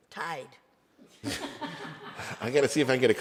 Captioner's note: attendees laugh